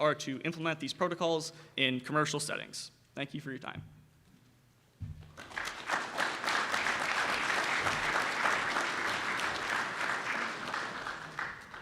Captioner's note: round of applause from audience